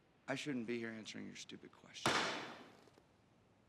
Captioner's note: gavel pounds